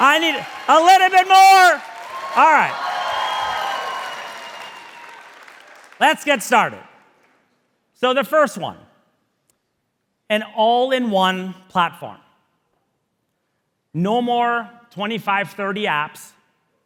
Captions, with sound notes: I need a little bit more. (audience cheering) Alright, let's get started. So the first one, an all-in-one platform. No more 25, 30 apps.